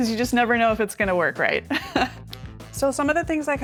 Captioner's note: chuckles